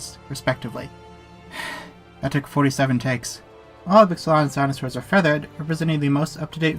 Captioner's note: sigh